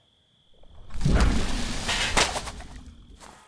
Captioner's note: water roaring; metal clanging